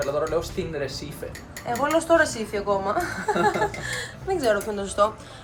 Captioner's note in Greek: γέλια